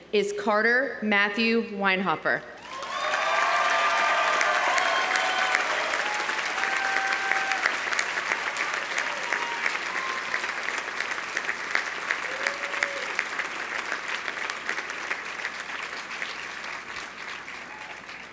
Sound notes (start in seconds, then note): 3.0 audience applauding; 3.0 audience cheering